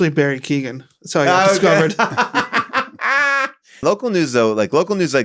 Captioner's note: everybody laughs